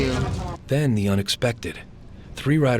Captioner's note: voiceover